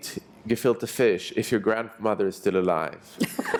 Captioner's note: brief laughter